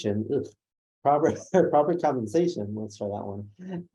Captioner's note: laughs